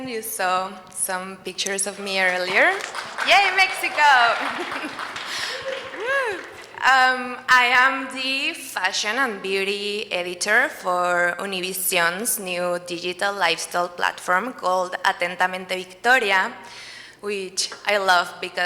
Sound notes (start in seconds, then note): 2.2 audience applauds